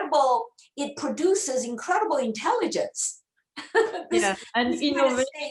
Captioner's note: laughs